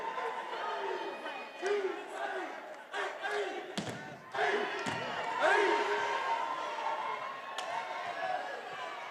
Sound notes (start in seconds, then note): 2.2 graduates grunting